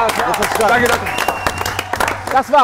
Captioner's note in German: Jubel, Applaus